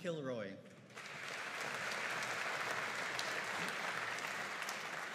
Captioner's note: audience applauding